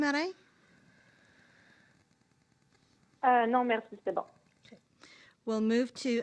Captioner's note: speaking French